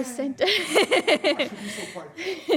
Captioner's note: laughter